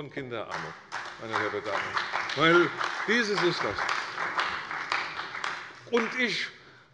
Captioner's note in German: Beifall bei der CDU und dem BÜNDNIS 90/DIE GRÜNEN